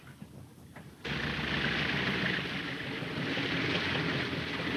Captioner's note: airplane buzzing